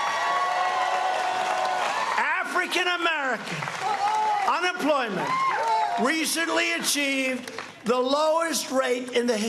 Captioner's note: cheers and applause